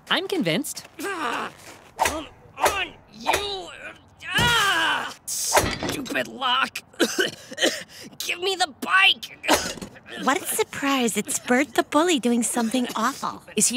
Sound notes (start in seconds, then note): 1.0 grunting; 6.9 coughing